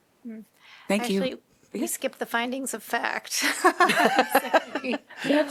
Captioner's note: laughter